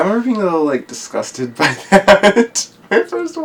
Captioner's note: laughs